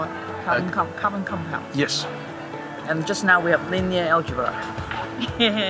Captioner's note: laughter